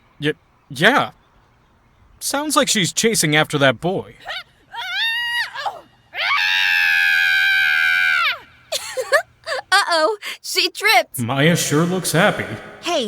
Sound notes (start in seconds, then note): 4.2 trips, screams!; 8.7 giggles